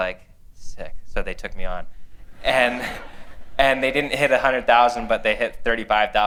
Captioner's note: laughter